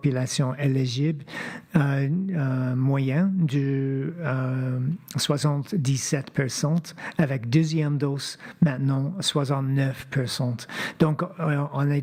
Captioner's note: speaking French